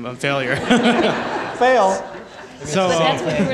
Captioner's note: crowd laughing